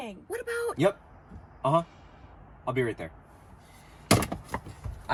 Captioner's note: talking on phone